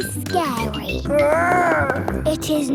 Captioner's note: growls